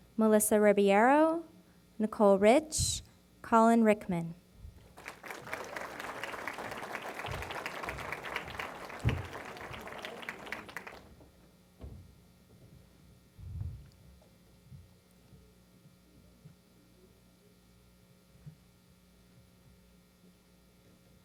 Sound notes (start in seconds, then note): 4.8 applause